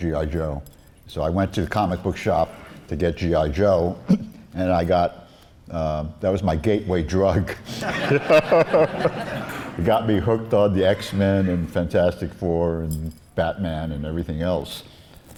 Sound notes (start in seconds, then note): 7.6 laughs